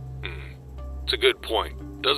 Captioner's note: none